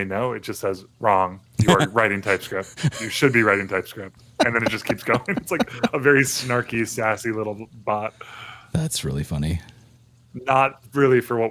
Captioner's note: audio cutting out